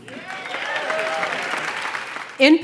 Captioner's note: applause